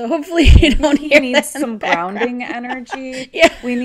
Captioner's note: laughs